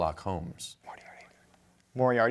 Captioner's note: whispering